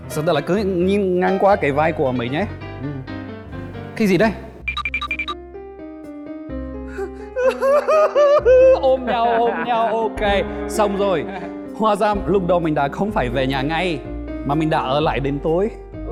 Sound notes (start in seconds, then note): 9.5 burst into tears while hugging him